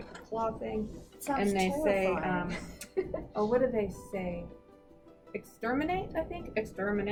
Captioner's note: laughs